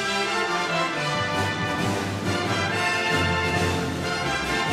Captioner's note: graduates applauding